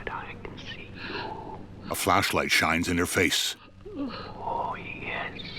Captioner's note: Tess sobbing